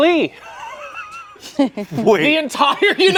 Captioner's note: everyone laughs